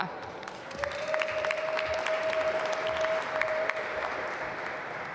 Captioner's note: applause